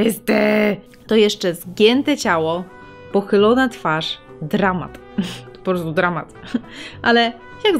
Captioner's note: ominous; laugh